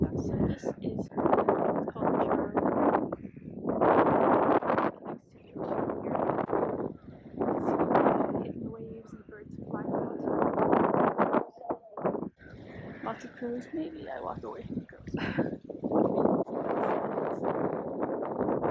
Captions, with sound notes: So this is the Charo River. You can see the waves and the birds flying around. Lots of crows, maybe I walk away from the crows. (laughs)